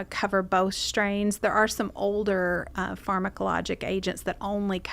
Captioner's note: none